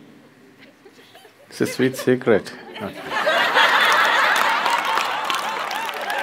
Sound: laughter

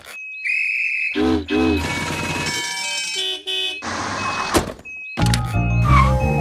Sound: whistle; singing

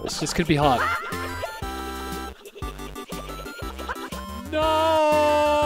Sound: Link yelling repeatedly

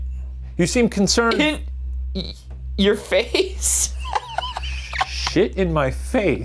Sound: laughs

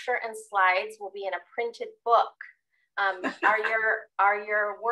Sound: laughs

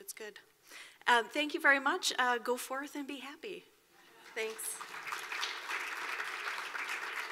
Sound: clapping

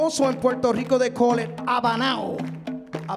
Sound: speaking in Spanish

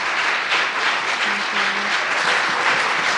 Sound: applause

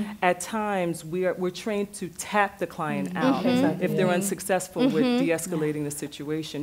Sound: others agreeing

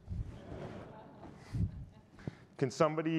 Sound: audience laughing

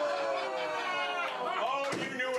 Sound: audience groans

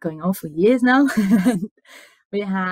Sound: laughs

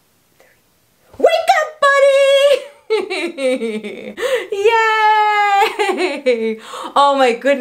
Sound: laughs

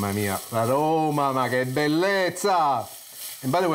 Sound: speaking in foreign language

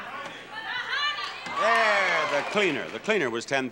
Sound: audience shouting

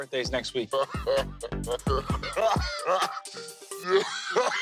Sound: Mike and Pauly laugh

